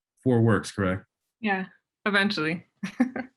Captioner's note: laughs